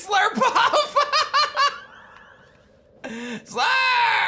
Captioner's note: laughs